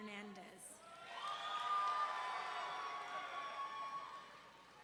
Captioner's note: audience cheering